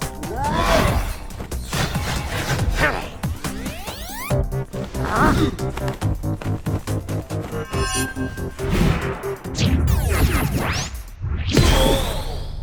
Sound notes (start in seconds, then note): 2.7 grunts